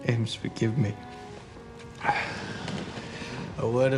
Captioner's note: <i> gasps</i>